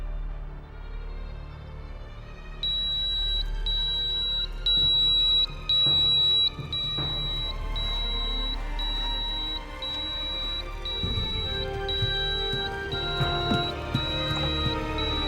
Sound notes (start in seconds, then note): 2.6 smoke detector beeping; 7.0 dramatic orchestral music